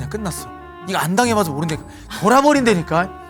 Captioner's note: suddenly shouting